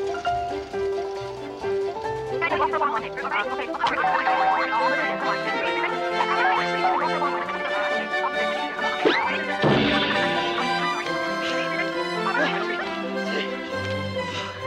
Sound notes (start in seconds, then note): 0.2 woman chattering; 6.9 ball thudding; 6.9 ball whooshing; 10.6 gasps; 11.1 women panting